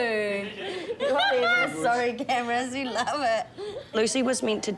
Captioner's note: chuckles